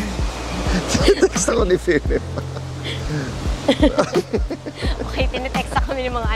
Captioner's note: laughs